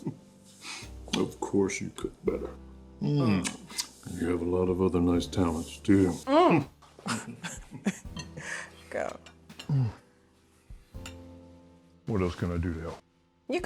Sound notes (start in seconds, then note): 0.2 chuckles; 6.7 Meg groans